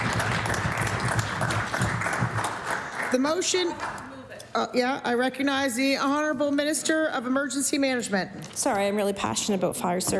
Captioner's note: applause